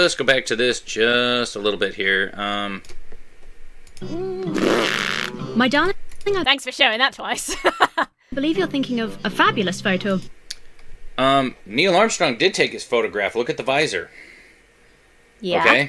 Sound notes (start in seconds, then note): 4.0 blows raspberry; 7.4 laughs